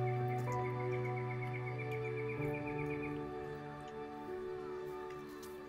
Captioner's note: birds chirping; gentle music